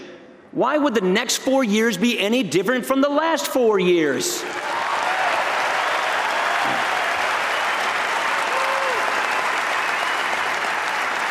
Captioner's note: applause